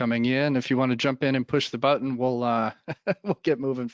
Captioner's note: laughs